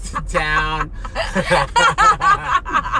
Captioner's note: laughs